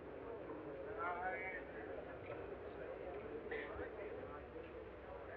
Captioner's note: people chatting